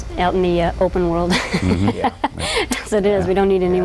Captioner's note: laughs